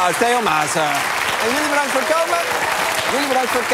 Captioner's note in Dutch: applaus